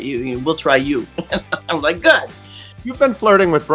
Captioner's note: laughs